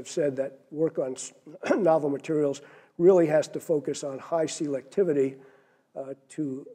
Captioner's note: cough